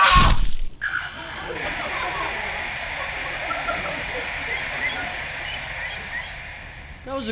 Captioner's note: static